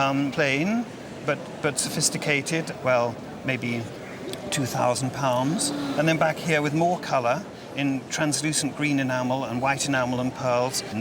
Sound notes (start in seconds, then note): 5.6 gasps